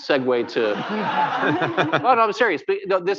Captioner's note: laughter